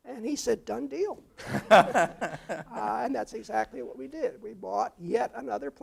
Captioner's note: laugh